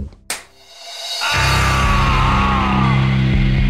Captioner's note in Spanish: Payne grita